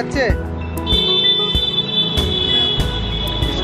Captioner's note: bike horn blow